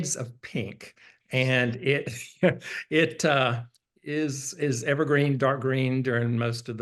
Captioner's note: laughs